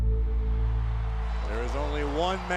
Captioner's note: audience roars